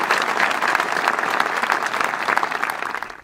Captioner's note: roaring applause